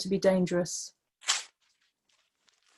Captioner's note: sound of ripping paper